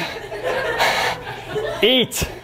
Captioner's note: laughter